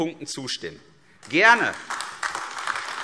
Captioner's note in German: Beifall AfD